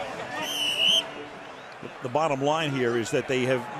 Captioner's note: whistle blows